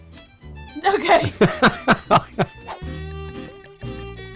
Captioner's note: laughs; warm festive music